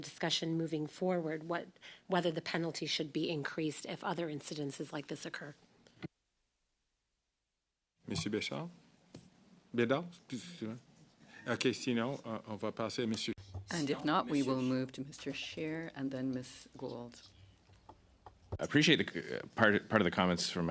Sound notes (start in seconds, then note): 15.9 speaking in French